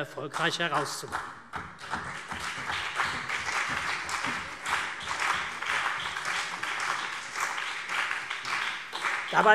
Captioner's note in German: Beifall CDU und BÜNDNIS 90/DIE GRÜNEN